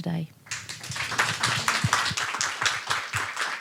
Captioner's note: applause